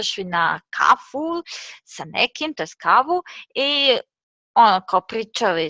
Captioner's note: Serbian; Croatian